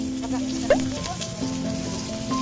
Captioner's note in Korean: 자글자글